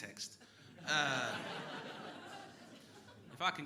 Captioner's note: crowd laughing